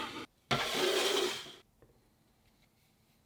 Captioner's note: sheet pan sliding